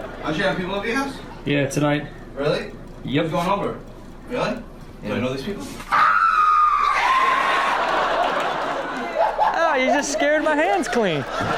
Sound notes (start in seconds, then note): 0.0 all laugh; 0.0 audience applauds; 5.9 men scream; 7.0 all laugh